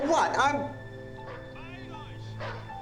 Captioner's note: dogs barking; speaking german